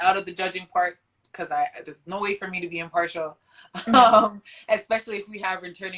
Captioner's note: laughs